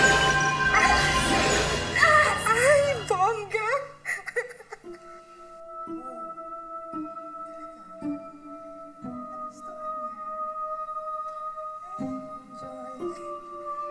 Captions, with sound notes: -Yes-- -Oh, amazing! [giggles]